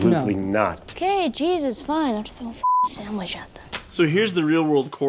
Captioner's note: beeping